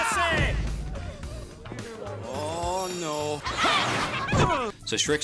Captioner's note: gasps, Grunts